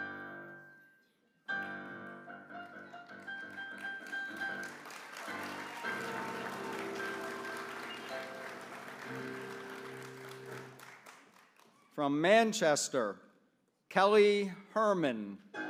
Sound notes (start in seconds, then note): 4.5 applause